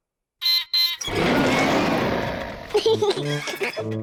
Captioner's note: beeps and roars; laughs